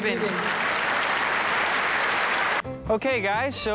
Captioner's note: applause